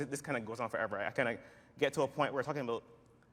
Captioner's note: none